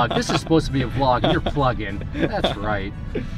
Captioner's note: laughs